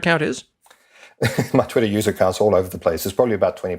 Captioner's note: laugh